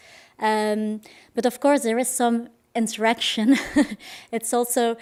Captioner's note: laughs